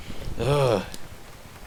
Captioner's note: sigh